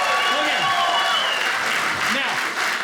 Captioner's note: audience cheering